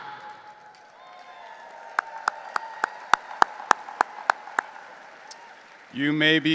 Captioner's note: audience cheering and applauding